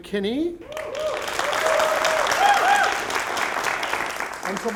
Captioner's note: applause